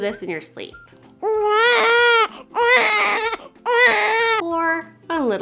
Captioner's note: baby cries